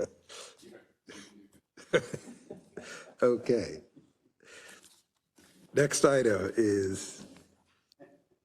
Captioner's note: laugh